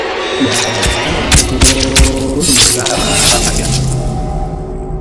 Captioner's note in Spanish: Gritos y cuchilladas